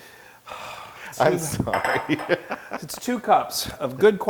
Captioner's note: laugh